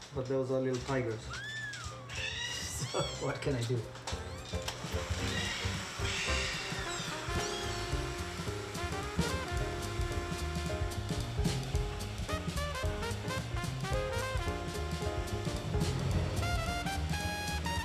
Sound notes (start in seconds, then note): 1.3 kitten mews; 4.1 jazzy music